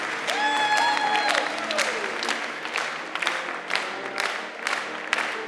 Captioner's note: choir clapping